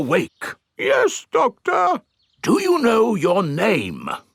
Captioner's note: in teddy's voice; in normal voice